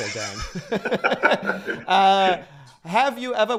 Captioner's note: laughter